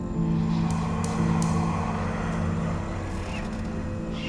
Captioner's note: light tapping